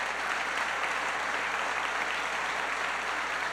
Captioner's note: applause